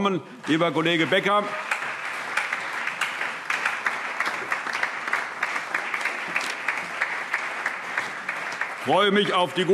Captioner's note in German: Allgemeiner Beifall